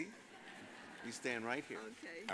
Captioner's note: audience laughs